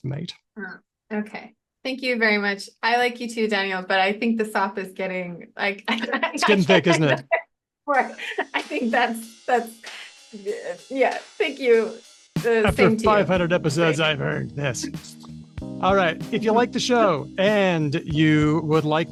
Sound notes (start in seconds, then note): 5.9 laughs